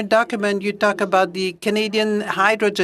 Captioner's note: speaking french